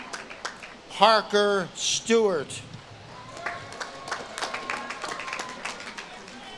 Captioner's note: audience claps and cheers